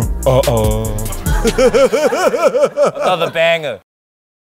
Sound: laughter

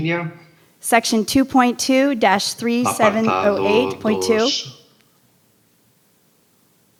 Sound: translator speaking in foreign language; man speaking in Spanish

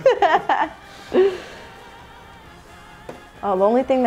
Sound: laughing

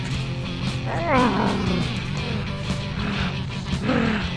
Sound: zombie groans

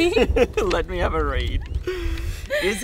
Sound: laughing

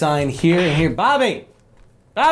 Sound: walke talkie static

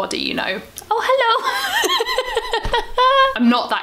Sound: laughs

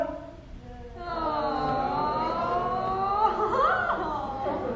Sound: they moan

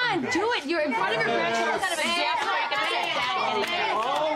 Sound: all clamouring

